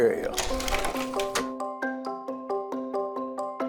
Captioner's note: slide projector clicking; whimsical music